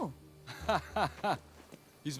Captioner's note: laughs